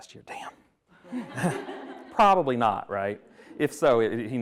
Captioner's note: attendees laughing